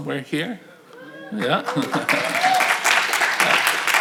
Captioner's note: audience cheering